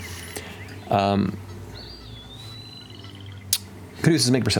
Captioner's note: birds calling